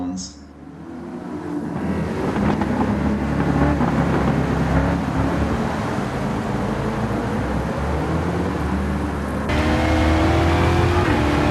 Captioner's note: engines revving, cars noises, rain